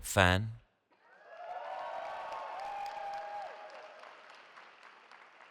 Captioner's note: cheering